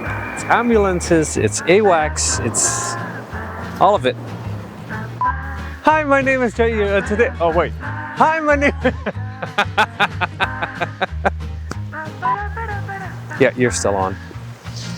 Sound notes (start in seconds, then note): 8.6 greasy laughter